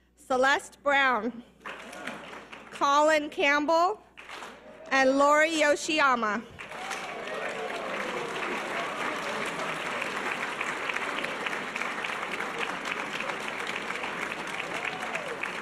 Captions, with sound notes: Celeste Brown, Colin Campbell, and Lori Yoshiyama. (audience cheers and applause)